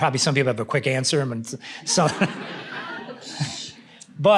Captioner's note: laughter